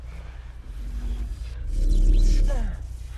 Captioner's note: force field vibrating